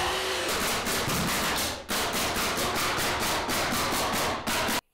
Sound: nails banging loudly

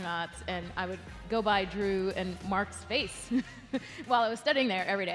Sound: chuckles

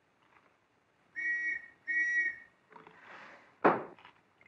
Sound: whistle blowing; door slamming shut

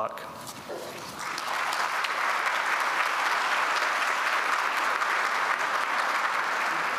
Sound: applause

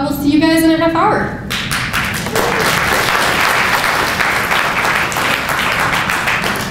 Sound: audience applause

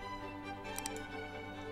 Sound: click

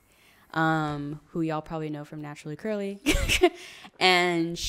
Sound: laughs

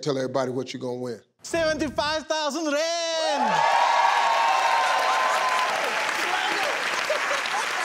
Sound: audience cheers

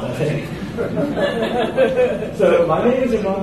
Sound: audience laughs

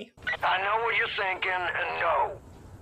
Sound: in-game audio, man on a radio

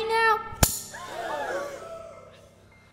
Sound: crowd gasps

